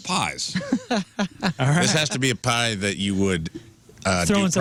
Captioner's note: laughing